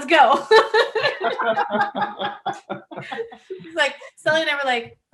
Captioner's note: laughing